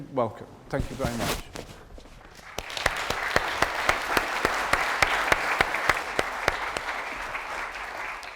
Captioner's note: audience applause